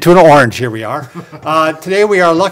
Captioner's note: laughing